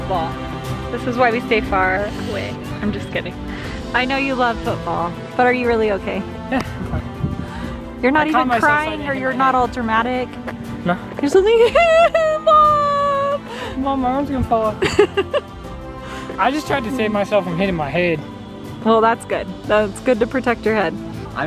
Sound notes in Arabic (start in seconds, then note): 12.0 أصوات بكاء; 14.8 يضحك